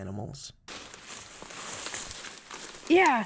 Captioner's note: brush rustling